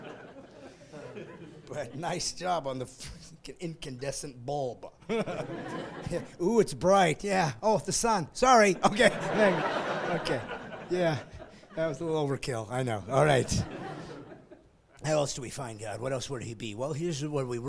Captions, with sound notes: "Came up with gravity, that's all I'm saying "right now, I'm just saying, "but nice job on the incandescent bulb. "Ooo, it's bright, yeah. "Oh, the sun. "Sorry... (laughing) "Okay, yeah, that was a little overkill, I know, all right."